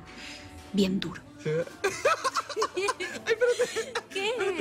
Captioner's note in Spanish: Risas